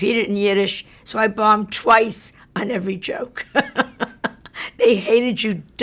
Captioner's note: laughs